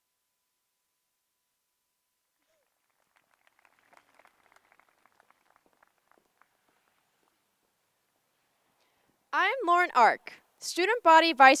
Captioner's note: applae